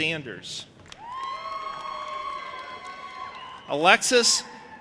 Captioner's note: audience applauding and cheering